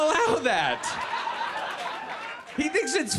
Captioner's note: audience laughs